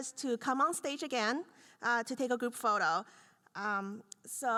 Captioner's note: none